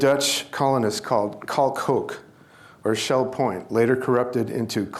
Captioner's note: speaking dutch